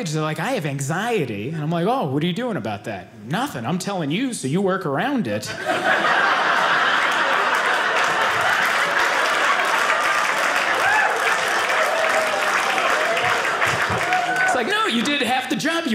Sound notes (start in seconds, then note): 6.1 audience applauding